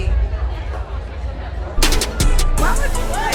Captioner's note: crowd chattering